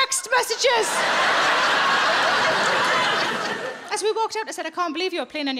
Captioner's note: audience laughing